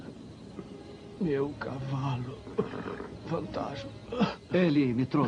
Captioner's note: coughs